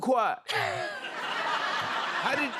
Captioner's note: laughter